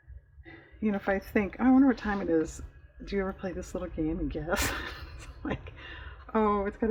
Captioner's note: laughs